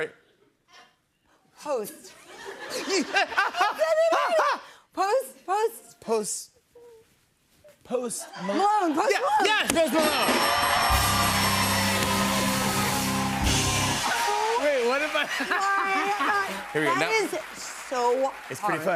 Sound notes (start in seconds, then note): 10.0 bell dinging; 11.0 cheers and applause; 15.0 laughs